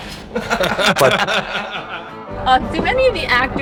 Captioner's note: laughter